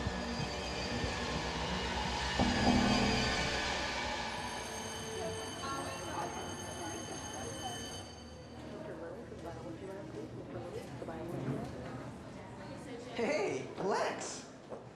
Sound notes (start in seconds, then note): 2.3 school bell rings; 5.7 chattering